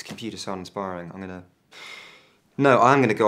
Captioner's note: inhaling deeply